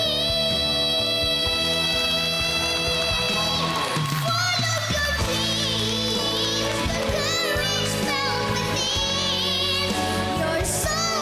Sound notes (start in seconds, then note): 1.5 applause, cheering